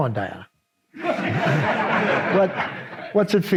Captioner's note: audience laughs